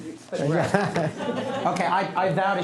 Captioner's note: laughter